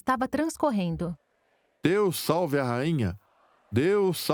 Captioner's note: crowd chanting